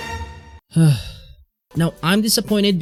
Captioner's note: sigh